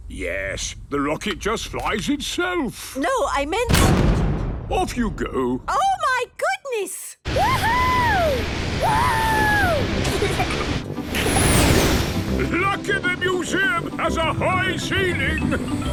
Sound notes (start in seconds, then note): 3.8 blasts off; 8.9 rocket thrusting